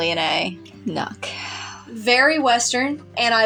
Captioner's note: adoring Sigh